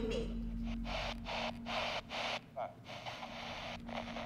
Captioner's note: static buzzing